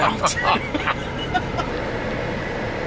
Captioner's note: laughs